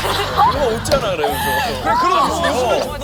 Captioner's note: bursts into laughter